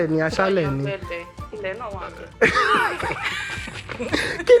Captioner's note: laughs